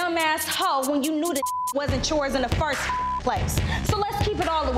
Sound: beep

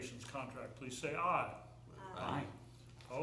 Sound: chorus of ayes

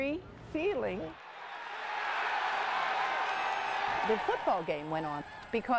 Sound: crowd cheering

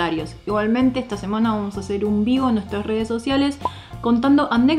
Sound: in spanish

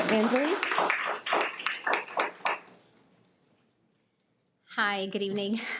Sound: attendees applauding

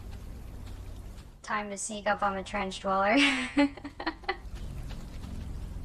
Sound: laughs

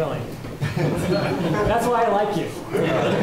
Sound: laughter

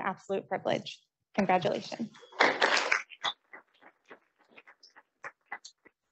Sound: audience applauding

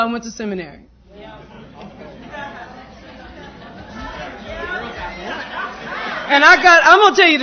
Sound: laughter

